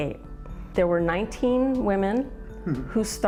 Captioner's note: chuckling